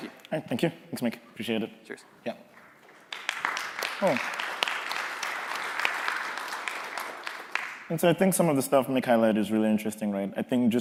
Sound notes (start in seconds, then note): 6.4 applause